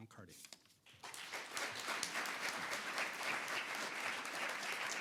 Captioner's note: audience applauding